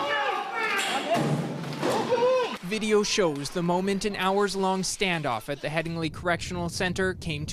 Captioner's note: screaming